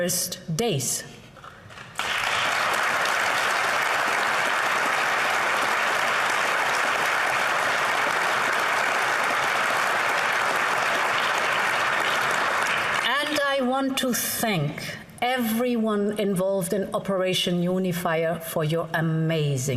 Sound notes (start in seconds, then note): 9.3 applause